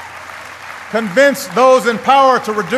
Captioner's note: applause